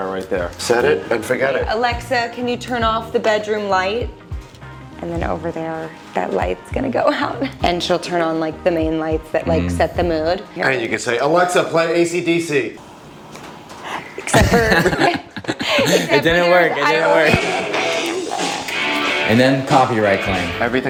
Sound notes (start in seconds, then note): 14.2 people laugh; 17.2 upbeat rock music